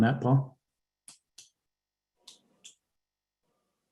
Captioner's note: typing